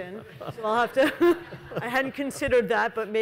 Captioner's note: panelists and audience chuckles